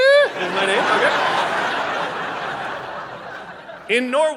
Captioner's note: audience laughing